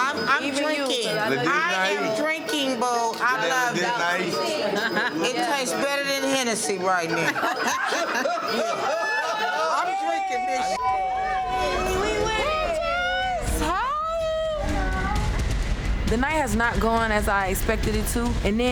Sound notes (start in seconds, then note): 3.9 overlapping chattering; 6.9 group laughs; 11.4 beep; 11.4 overlapping chattering